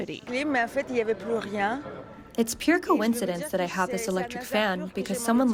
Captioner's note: through translator